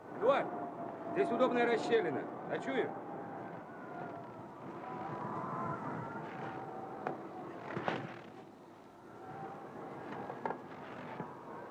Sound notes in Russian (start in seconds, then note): none